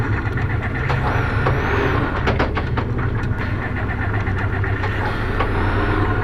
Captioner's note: engine cranks repeatedly